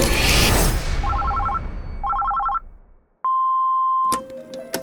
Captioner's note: phone ringing; machine beeps; slow tense music